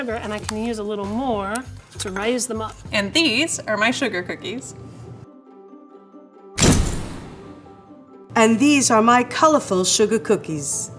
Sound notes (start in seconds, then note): 5.0 cheerful music; 6.6 flash bulb crashes